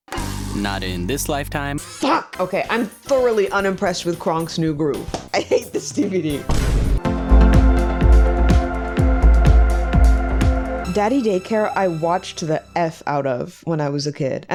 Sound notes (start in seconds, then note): 5.1 laughing; 6.5 boom; 7.1 upbeat music